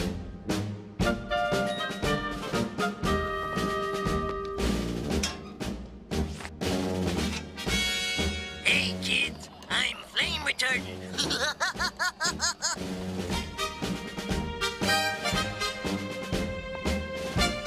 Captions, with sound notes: Hey kids I'm flame retardant! (laugh)